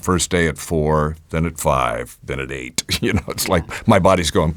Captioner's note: chuckles